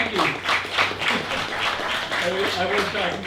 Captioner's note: applause